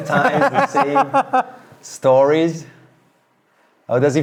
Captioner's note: both laughing